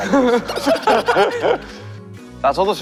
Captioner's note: hahaha